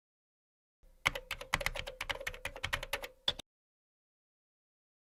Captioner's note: typing